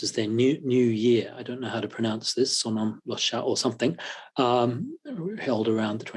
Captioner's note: japanese